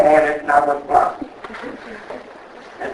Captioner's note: laughs